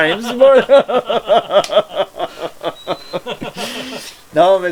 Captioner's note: laughtering